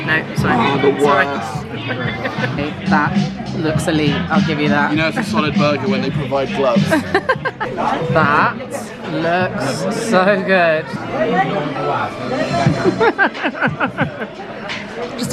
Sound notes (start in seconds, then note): 1.7 laughs; 6.8 laughs; 12.8 laughs